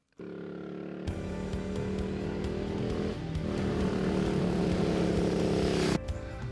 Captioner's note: engine rumbling; upbeat music